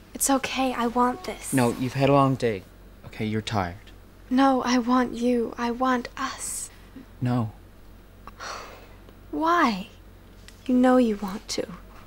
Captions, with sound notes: It's okay, I want this. No, you've had a long day. Okay? You're tired. No - I want you, I want 'us'. N-no. [Trudy sighs] Why? You know you want to.